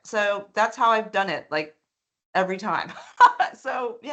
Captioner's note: laughing